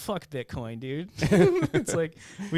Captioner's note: laughing